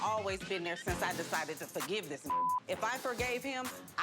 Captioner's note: beep